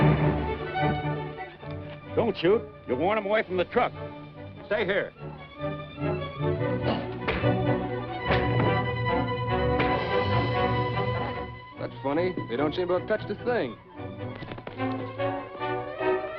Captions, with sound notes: Don't shoot. You'll warn them away from the truck. Stay here. [PUNCH THUDS] That's funny. They don't seem to have touched a thing.